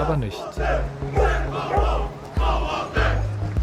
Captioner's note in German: Rufe auf Polnisch